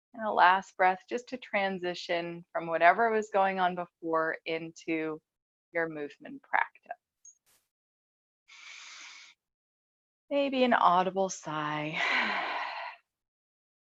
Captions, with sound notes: And a last breath, just to transition from whatever was going on before into your movement practice. (breathes deeply) Maybe an audible sigh. (sighs)